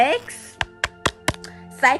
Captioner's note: taps screen